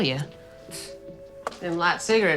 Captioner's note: scoffs